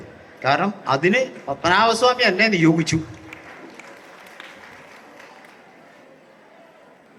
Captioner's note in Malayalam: കരഘോഷം